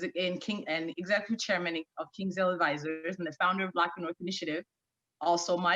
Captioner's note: stammering